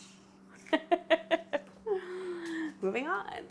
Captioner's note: laughing